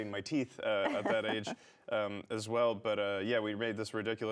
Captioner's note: laughs